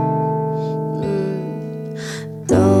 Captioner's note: hum